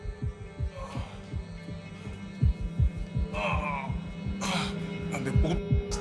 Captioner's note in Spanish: Quejidos